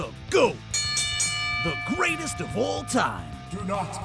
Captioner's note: wrestling bell DING DING DING